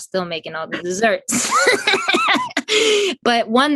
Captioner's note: both laugh